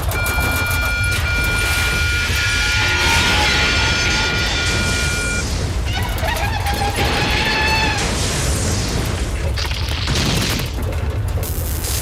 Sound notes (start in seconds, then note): 0.1 alarm rings; 6.7 pillar crashes; 9.9 wood breaks